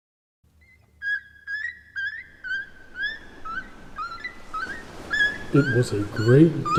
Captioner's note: seagulls cawing